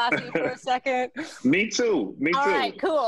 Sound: laughter; laughter

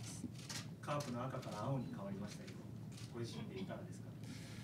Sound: speaking Japanese

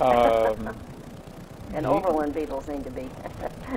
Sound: laughs

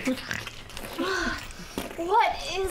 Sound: stirring noises

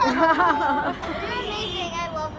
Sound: laughing

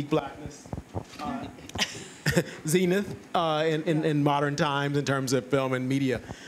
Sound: chuckles

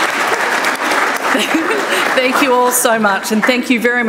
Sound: chuckles

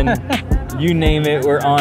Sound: laughter

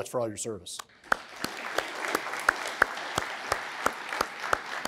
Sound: applause

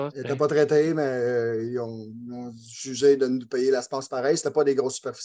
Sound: speaking foreign language

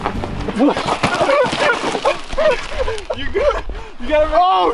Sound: laughter

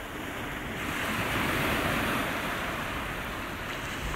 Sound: sea crashes

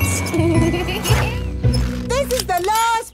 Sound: laughing

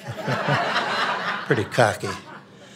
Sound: audience laughing

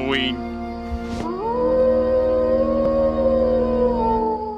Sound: wolf howls

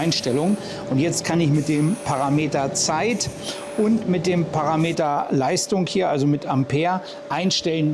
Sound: amps

